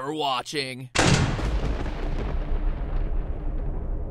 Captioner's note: SFX: Thunder